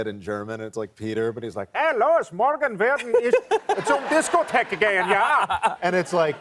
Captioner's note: imitating German; laughter